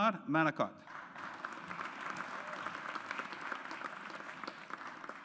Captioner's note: audience applauds